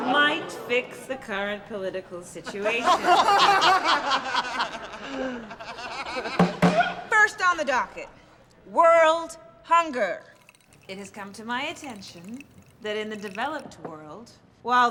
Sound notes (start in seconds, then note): 3.3 laughter; 6.3 bangs gavel